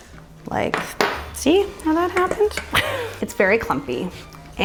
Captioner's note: chuckles